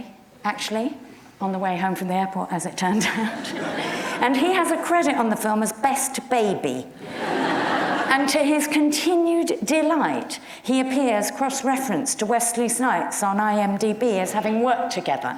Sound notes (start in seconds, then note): 3.4 audience murmurs; 7.0 audience laughs